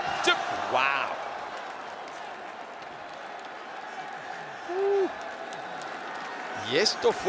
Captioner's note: applause